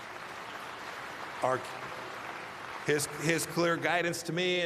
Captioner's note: applause